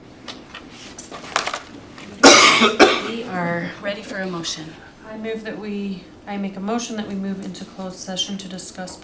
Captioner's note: cough